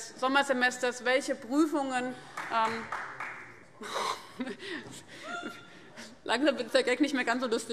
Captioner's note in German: Beifall